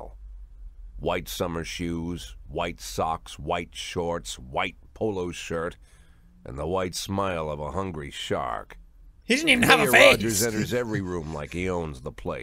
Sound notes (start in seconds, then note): 9.4 chuckles